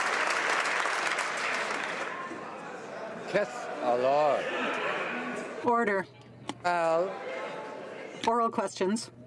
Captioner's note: some Applause